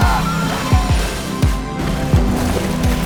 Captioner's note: Eleven breathing heavily; dramatic music; characters yelling; dramatic music